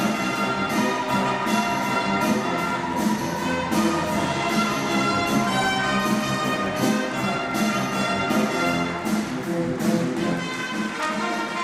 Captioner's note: applause